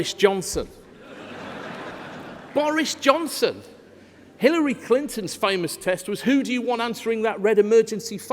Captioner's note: laughter